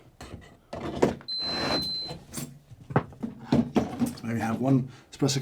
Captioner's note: machine beeps